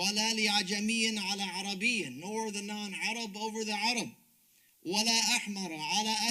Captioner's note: speaks Arabic